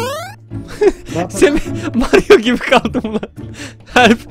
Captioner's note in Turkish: Gülerek